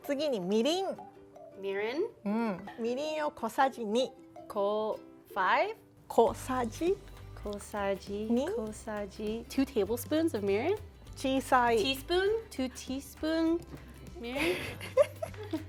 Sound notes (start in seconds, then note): 0.2 speaking Japanese; 3.0 speaking Japanese; 6.2 speaking Japanese; 11.0 speaking Japanese; 14.3 giggling